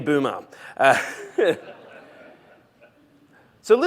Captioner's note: laughter